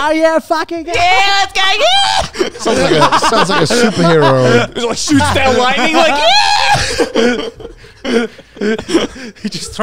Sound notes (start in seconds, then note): 1.6 shrieking; 4.6 shrieking; 7.3 laughing